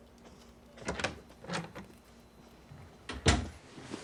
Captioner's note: door opens, closes